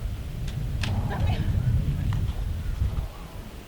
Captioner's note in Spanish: disparo